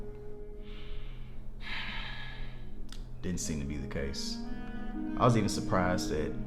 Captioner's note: sighs